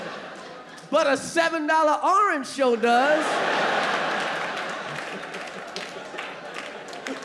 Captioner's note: audience laughing; audience laughing